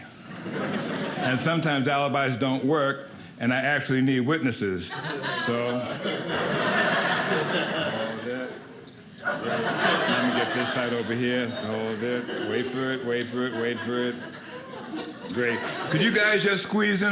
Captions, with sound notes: (audience laughing) and sometimes alibis don't work and I actually need witnesses, so . . . (audience laughing) Let me get this side over here (audience laughing) Wait for it, wait for it, wait for it. Great, could you guys just squeeze in